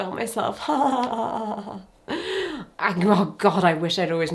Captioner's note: person laughing